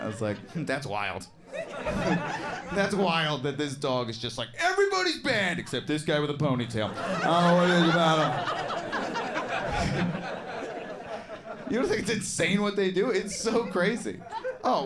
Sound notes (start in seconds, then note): 10.3 audience laughs